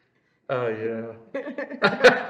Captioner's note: laughs